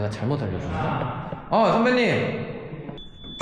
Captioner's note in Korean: 밑에서 들리는 누군가의 목소리